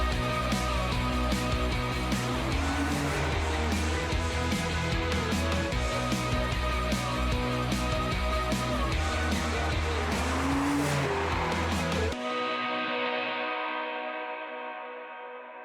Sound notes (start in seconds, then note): 0.0 uplifting music; 10.2 car engine revving; 12.6 uplifting music